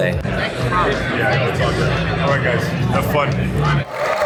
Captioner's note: crowd chattering; crowd clapping and cheering